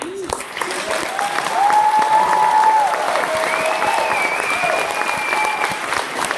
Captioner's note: clapping and cheering